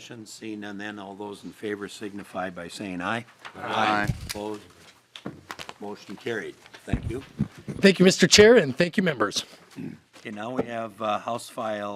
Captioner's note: chorus of ayes